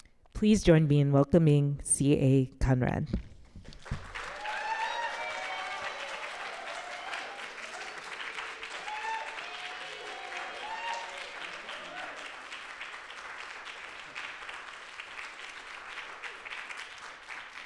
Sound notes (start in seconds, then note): 4.0 audience applauding; 4.0 audience cheering